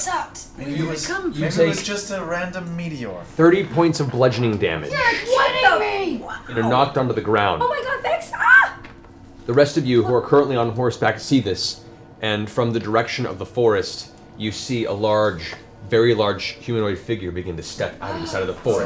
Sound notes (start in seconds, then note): 8.1 screams